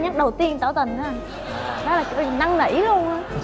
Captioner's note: laughing